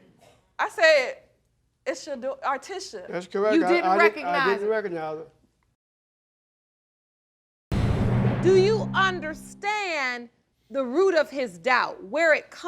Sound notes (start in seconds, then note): 3.7 stammers